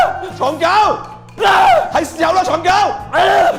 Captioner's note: screaming